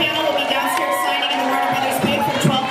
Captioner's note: cheers